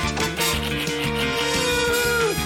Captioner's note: thud!; keys clack; groans